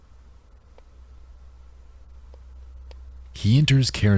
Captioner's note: clicking sound